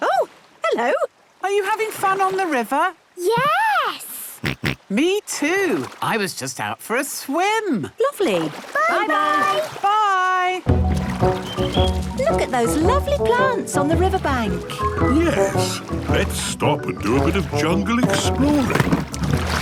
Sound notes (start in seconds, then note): 4.3 snorts; 11.8 chirping